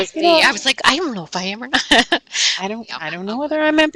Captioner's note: laughing